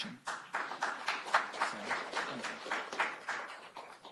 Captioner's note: applause